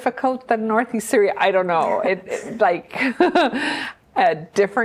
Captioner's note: chuckles